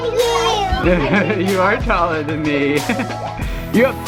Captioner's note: laughs